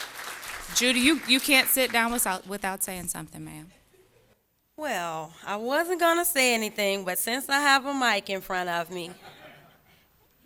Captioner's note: applause